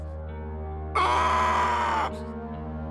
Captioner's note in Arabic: صراخ